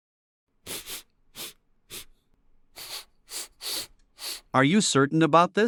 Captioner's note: sniff sniff sniff